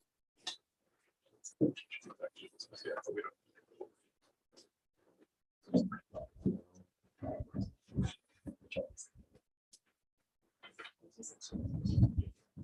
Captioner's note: background chatter